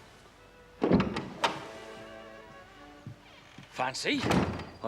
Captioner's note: door opening